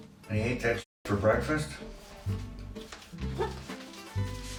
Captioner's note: none